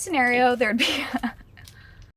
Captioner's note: laughing